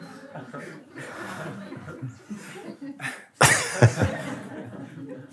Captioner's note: Lachen